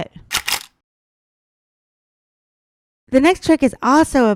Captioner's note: camera shuttering